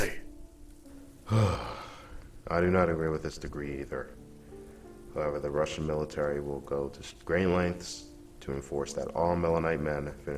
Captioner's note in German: seufzt